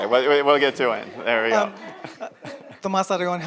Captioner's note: audience laughs